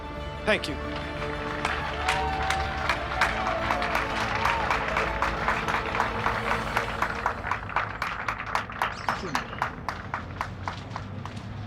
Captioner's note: applause